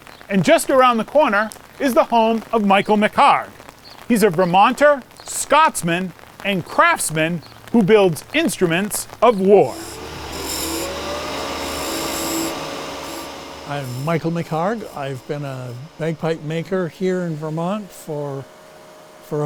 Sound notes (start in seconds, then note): 10.6 lathe whirring